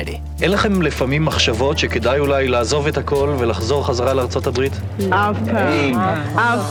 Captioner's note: interviewer speaking in foreign language; interviewees speaking in foreign language